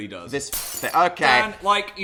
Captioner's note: glass smashes